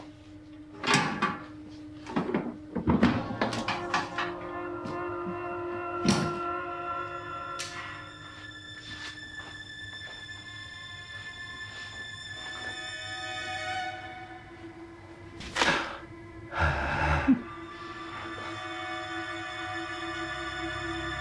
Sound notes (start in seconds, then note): 0.9 metal clinks; 2.6 lid rattles; 7.6 plier shuts; 15.4 hand thuds; 16.4 Aladdin grunts; 18.3 dramatic music